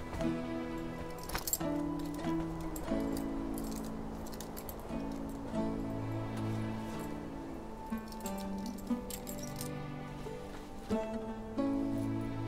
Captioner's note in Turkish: Takırtı Sesleri